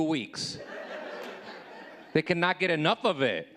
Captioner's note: audience laughing